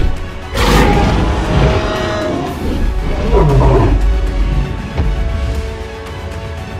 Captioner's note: T-rex stomps off